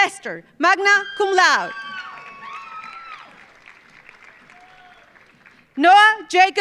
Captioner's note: audience cheering; audience applauding